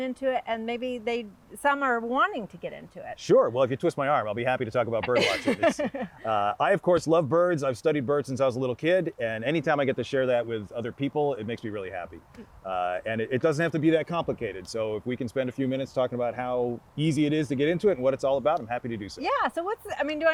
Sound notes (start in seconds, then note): 5.0 host laughs